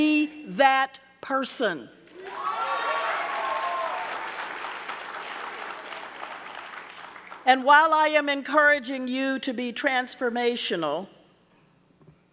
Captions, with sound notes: Be that person. (audience cheering) (audience clapping) And while I am encouraging you to be transformational,